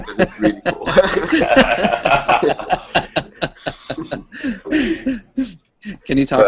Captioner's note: laughter